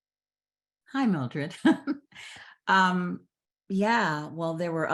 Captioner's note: chuckles